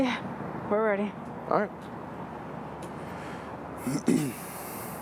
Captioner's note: clears throat